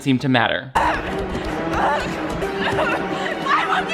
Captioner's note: intense music; victim moaning